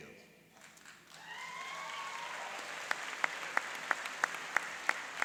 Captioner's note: cheering and applauding